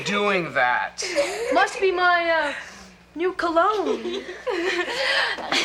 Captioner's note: Morgan and Tanya laughing